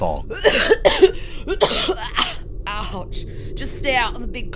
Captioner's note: violent coughing